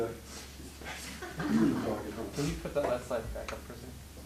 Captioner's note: laughing